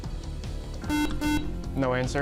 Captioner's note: buzzer